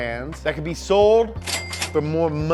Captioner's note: cash register dings